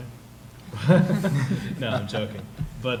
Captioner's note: laughter